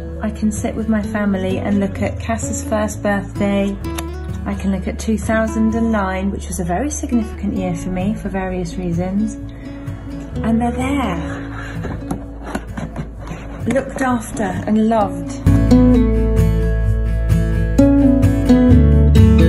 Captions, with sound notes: I can sit with my family and look at Cass's first birthday. I can look at 2009, which is a very significant year for me for various reasons. And they're there (box lid scrapes) looked after and loved. (gentle upbeat music)